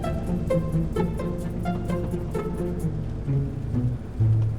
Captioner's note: airplane humming